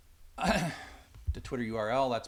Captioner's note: clears throat